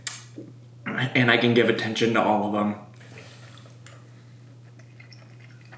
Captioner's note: chews